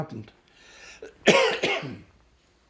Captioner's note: coughing